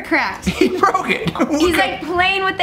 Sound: laughs

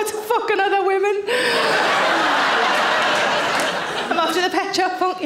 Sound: audience laughing

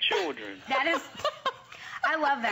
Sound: laughter

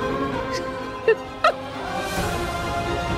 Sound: sobs; poignant music playing

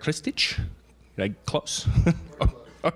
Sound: laughs

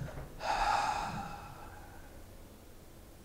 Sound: long exhale

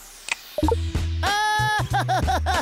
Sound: laughing

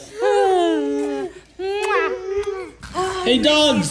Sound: kissing

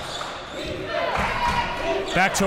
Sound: crowd cheering

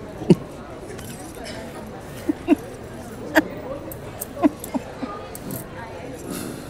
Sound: giggling

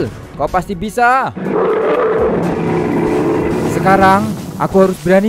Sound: Kyuubi is roaring

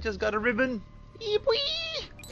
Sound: happy squealing

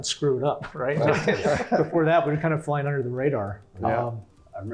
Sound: laugh

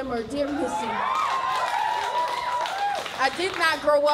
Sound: crowd cheering

